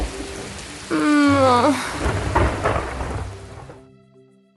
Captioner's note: sigh